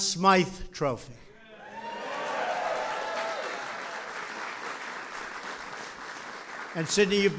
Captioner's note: applause